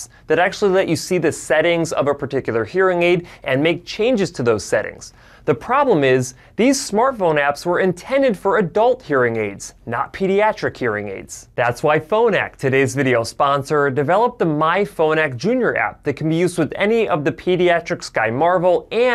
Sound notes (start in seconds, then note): none